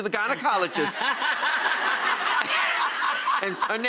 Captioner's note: laughs